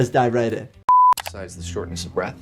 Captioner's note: digital beep